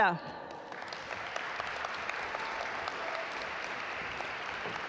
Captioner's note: audience applaud